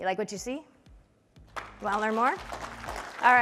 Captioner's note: applause